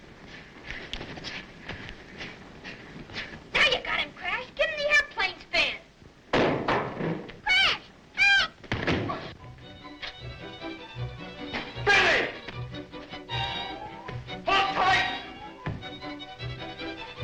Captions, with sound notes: - Now you got him, Crash. Give him the airplane spin. (window clattering) Crash, help! (tense dramatic music) - Billy! Hold tight.